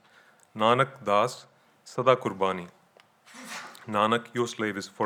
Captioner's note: speaking in foreign language